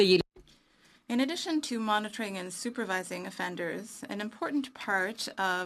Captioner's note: speaking French